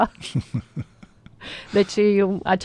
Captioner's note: laughter